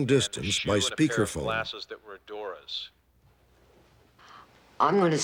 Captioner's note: on phone